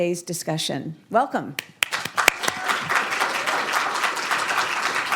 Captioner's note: applause